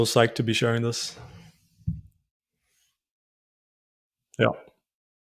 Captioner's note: silence; silence